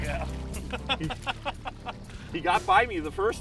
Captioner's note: laughing